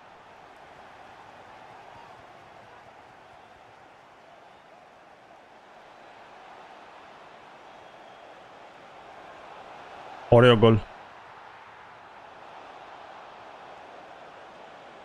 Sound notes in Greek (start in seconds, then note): 0.0 χειροκρότημα